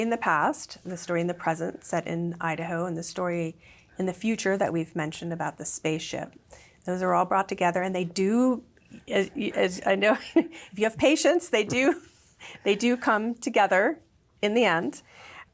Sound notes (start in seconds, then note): 11.6 laughs